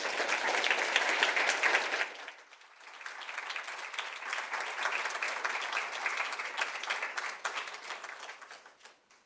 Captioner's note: applause